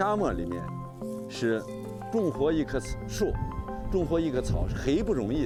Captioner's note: speaking chinese